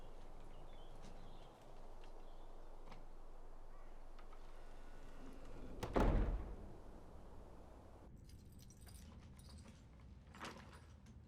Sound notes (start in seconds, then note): 4.7 door creaks; 5.6 door slams; 8.2 keys clink